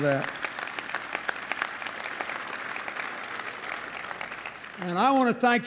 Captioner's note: applause